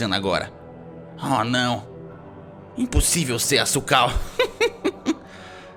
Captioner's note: laughs